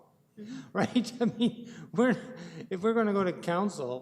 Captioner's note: laughing